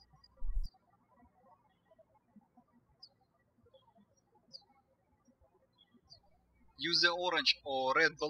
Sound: birds chirping

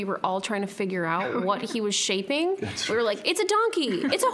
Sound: laughing

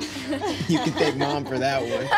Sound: laughing

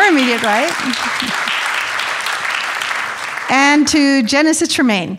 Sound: audience applauding

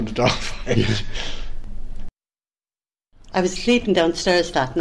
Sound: laugh

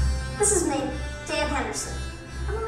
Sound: dramatic music; voiceover

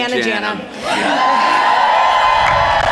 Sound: applause

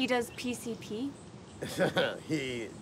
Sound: chuckles

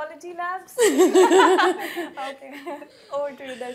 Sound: laughter

